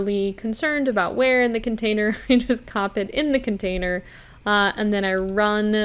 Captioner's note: chuckles